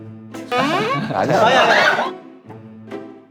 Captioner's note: sliding